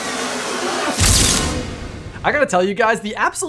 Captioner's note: camera clicking